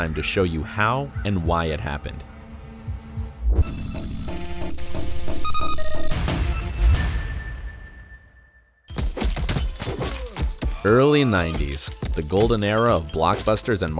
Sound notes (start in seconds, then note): 3.7 playful music; 9.8 fists thumping